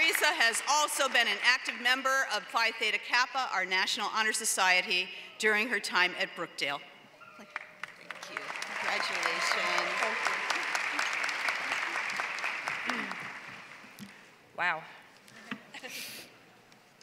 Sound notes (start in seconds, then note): 0.0 applause; 10.1 applause